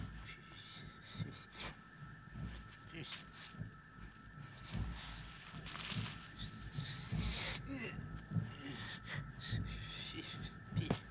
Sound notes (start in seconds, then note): 0.3 mutters; 7.1 grunts